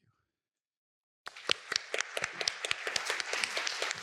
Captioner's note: applause